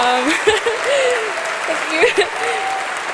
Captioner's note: applause